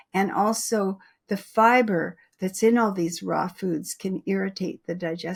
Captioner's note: none